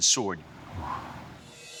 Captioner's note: exhales